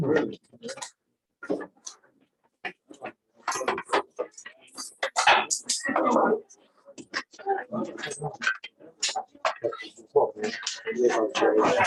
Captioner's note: background chatter